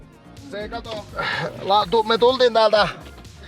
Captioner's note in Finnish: hengähtää